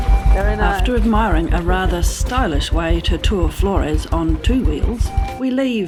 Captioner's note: motorbike engine